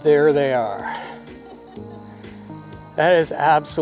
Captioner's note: other cyclist laughing